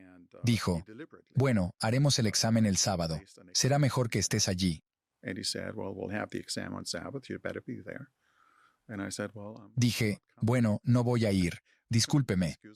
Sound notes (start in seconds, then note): 5.1 Hablando idioma extranjero